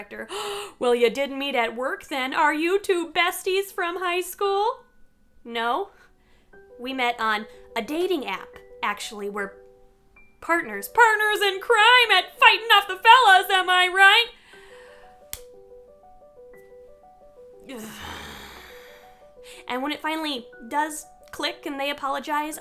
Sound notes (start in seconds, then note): 15.0 sighs; 17.7 groans